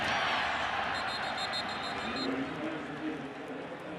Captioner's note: whistle blowing